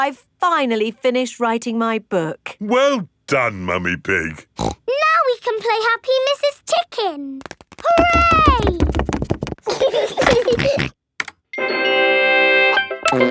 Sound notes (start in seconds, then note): 4.5 snorts; 9.7 george giggles and snorts; 11.7 video game music plays